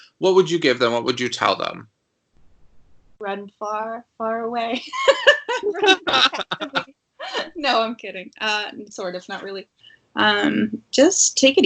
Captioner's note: laughter